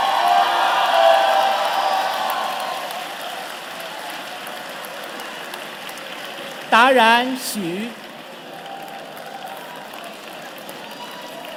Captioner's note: cheers and Applause